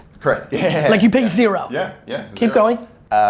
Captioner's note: laughs